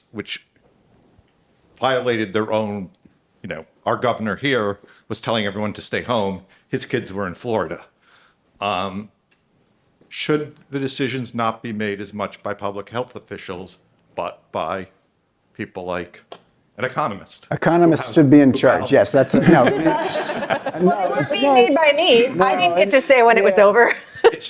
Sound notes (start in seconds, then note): 19.2 participants laughing; 24.0 laughs